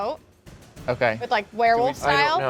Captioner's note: none